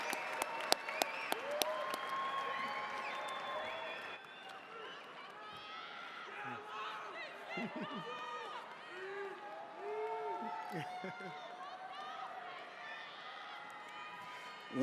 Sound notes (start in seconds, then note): 5.3 attendees shouting; 11.1 chuckling